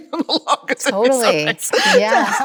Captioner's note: Chloe laughs